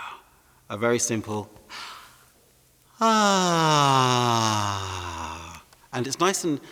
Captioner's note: sighs